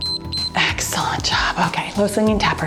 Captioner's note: timer beeps